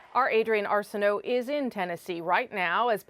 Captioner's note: cheers and Applause